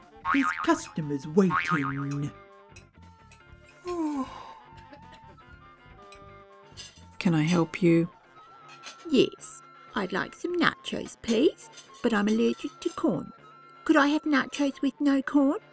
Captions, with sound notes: There's customers waiting! (yawn sound) Can I help you? Yes. I'd like some nachos, please! But I'm allergic to corn. Could I have nachos with no corn?